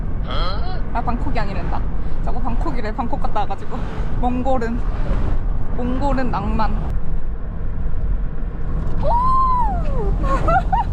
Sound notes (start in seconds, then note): 6.9 A car drives by while spewing out dust